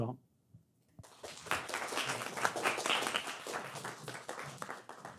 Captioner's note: audience clapping